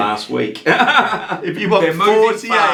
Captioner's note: laughing